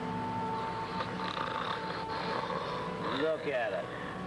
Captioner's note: mate snoring